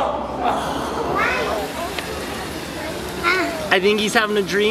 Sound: water splashing

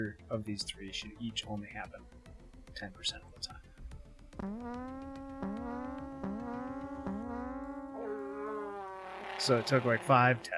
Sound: overlapping fart noises

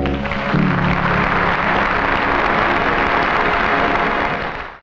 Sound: audience clapping

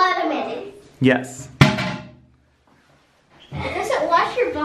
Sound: toilet lid slams

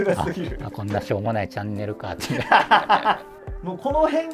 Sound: laughing

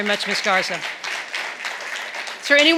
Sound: audience clapping

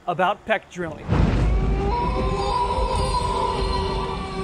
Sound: wolf howls

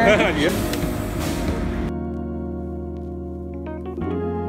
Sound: laughs; downtempo music

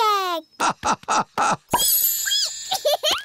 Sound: laughing; squeaking; giggling

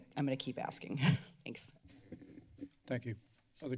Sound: giggles

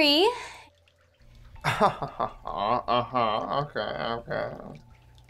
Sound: laughs

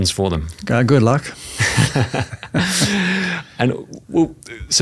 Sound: both laughing

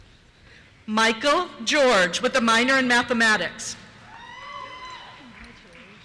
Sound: cheers

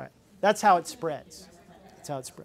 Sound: participants laugh

